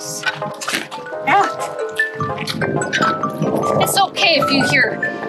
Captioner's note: phone rings